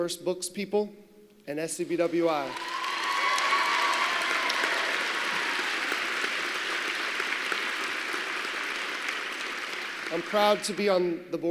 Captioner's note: applause